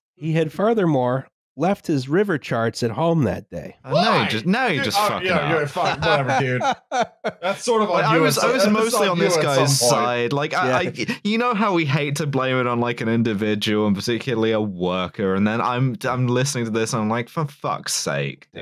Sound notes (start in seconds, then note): 3.8 shrieks; 7.1 laughs